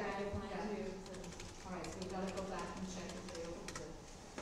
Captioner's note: typing